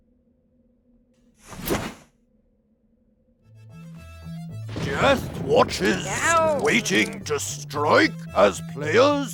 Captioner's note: magical swoosh